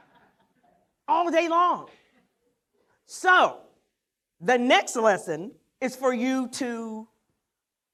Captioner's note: laughter